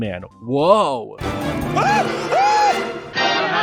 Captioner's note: Rodrick screams like a girl